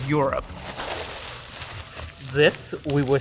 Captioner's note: plastic crinkling